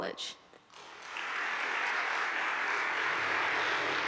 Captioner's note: audience claps